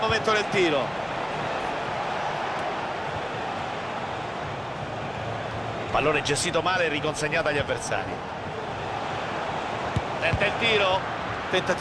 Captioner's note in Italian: Applauso